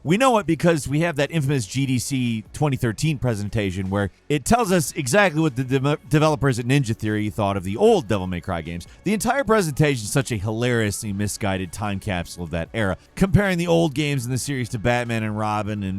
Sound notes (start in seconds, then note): none